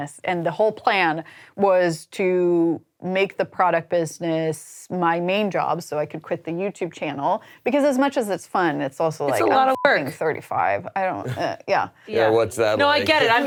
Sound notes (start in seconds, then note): 9.3 beep